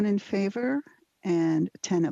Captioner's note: speaking French